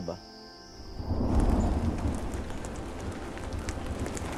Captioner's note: thunder Rumbling